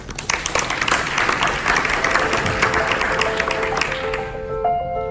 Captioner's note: audience applause; inspiring music